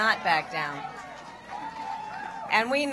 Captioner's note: applause